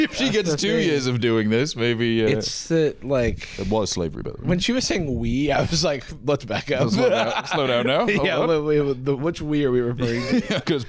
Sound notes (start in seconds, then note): 6.8 laughs